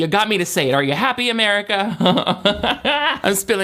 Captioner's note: laughs